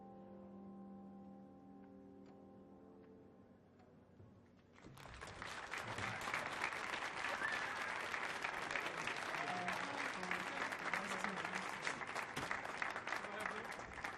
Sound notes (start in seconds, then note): 5.4 audience clapping; 7.9 audience cheering